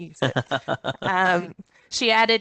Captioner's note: chuckles